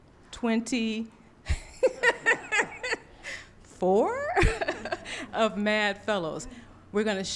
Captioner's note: laughs